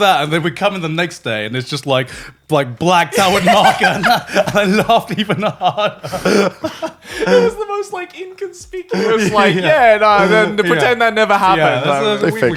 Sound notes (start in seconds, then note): 5.9 laughing